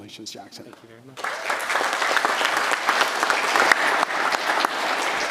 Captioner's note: audience applauds